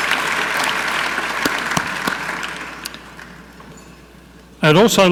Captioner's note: clapping